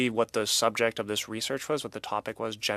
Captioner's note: speaking French